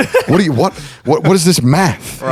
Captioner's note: laughing